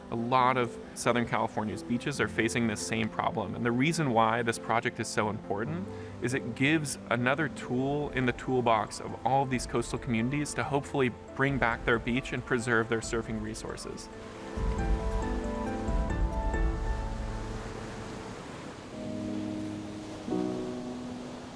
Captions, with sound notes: A lot of Southern California's beaches are facing this same problem, and the reason why this project is so important is it gives another tool in the toolbox of all these coastal communities to hopefully bring back their beach and preserve their surfing resources. (waves crashing) (soft pensive music)